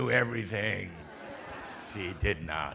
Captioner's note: audience laughing